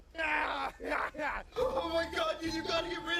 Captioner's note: cackles